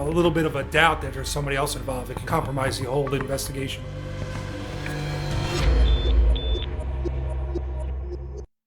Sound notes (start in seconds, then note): 5.8 two high-pitched beeps